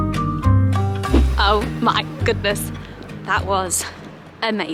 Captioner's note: transition swishes